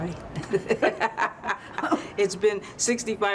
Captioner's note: laughter